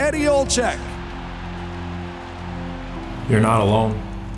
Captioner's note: crowd cheering